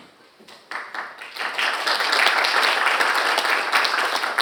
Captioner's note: audience applauding